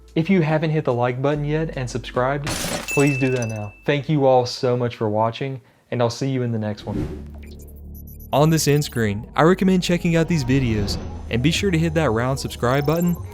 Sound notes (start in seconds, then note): 2.4 glass shatters; 7.0 air whooshes